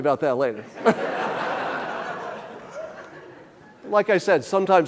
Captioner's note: audience laughing